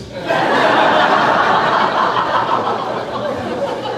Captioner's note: crowd laughing